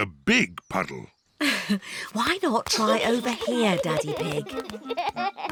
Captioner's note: giggles; chuckles